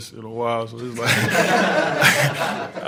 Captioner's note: laughs; reporters laughs